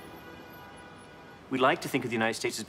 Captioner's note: car horn honking